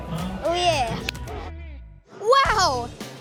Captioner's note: hands slap